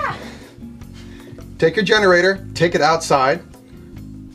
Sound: laughs

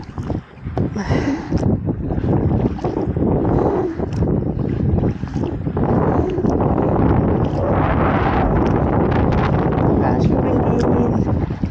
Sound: strong wind & paddling

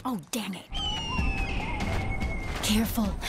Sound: eagle screeching

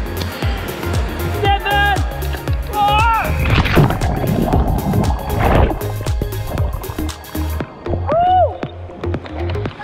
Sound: bubbling sound - underwater

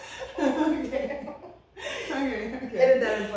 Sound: laughter

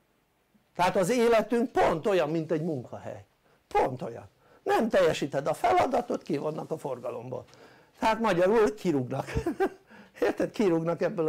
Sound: laughter

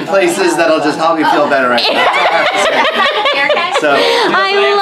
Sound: laughs

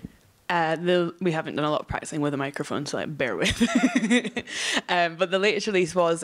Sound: laughs

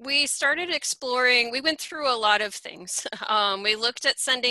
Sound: chuckles

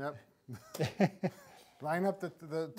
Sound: laughing

